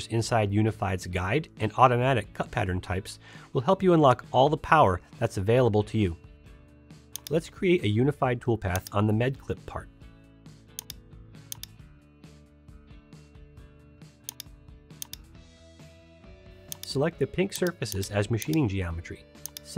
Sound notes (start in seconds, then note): 10.5 soft music; 11.4 mouse clicking